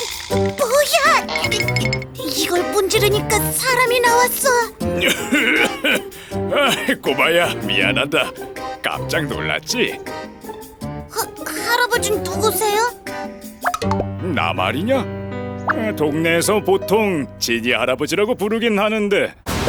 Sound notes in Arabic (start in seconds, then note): 4.9 صوت الكحة